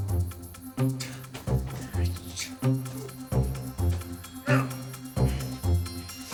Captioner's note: Andrew grunting